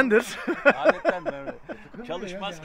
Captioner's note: laughings